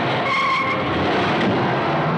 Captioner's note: tires squealing